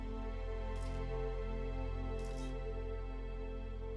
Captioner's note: camera clicking